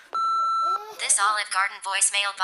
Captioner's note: beep